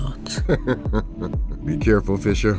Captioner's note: Lambert laughs, amused